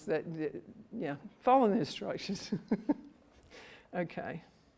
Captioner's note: laughs